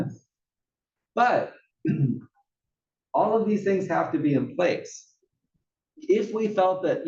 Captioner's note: cough